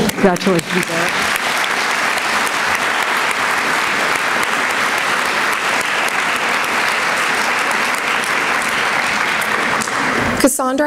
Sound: applause

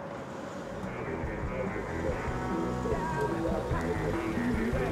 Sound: radio playing

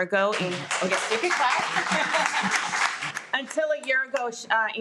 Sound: everyone applauds

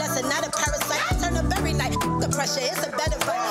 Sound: beep

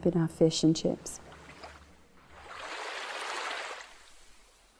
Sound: water gurgling

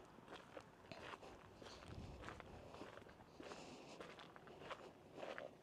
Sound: footsteps crunching

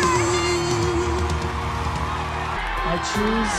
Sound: cheers and applause

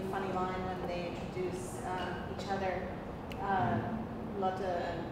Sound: speaking foreign language

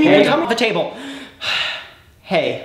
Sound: takes a deep breath

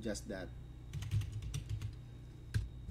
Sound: type..clack..type

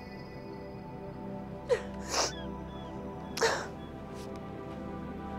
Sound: sobbing

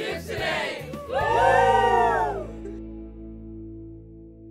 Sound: cheering

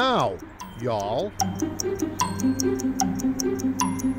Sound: clock ticks

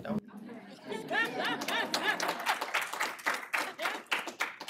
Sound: applause

